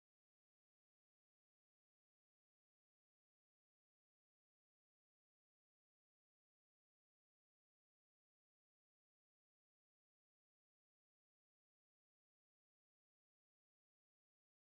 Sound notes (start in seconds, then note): none